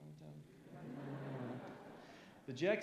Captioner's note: laughter